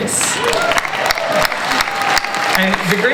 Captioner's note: audience cheers